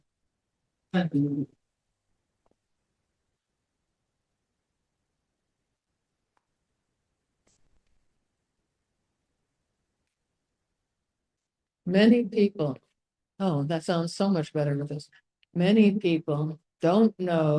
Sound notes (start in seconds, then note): 0.9 long pause